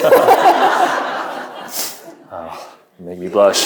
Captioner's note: chuckling; audience laughing